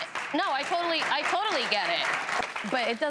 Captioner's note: audience clapping